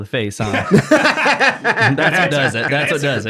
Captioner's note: hosts laughs